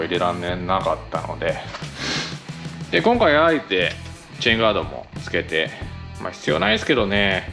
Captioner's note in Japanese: 鼻息